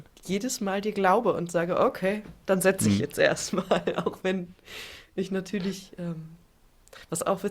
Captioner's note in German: gelächter